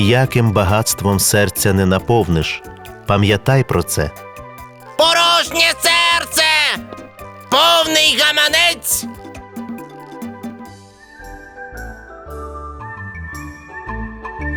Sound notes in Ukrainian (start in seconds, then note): 5.2 галас папуги